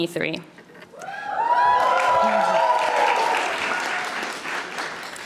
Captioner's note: audience applauding